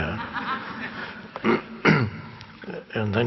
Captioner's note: audience laughing